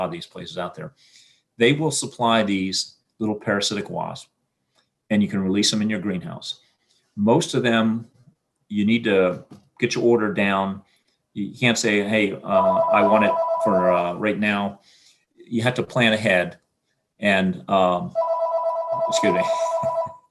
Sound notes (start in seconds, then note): 12.5 phone ringing; 18.1 phone ringing